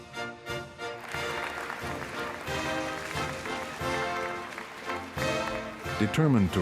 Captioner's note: applause